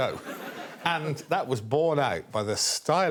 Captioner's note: audience laughing